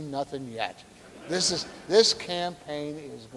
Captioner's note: audience laughing